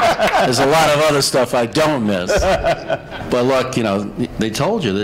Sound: laughter

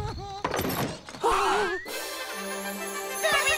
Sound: gasping

